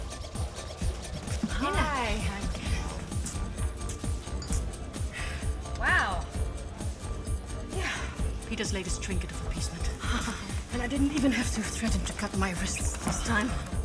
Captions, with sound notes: - Nina. Hi. - Hi! Wow! Yeah, Pieter's latest trinket of appeasement. [Nina chuckles] And I didn't even have to threaten to cut my wrists this time.